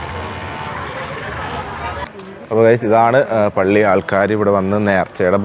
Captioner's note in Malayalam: കരഘോഷം